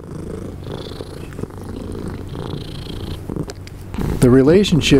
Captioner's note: cat purring